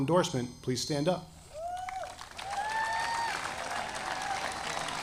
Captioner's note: audience applauding